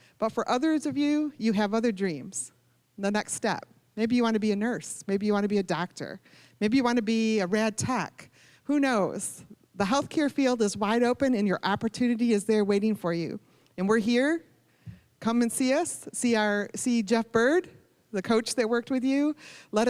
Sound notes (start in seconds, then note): none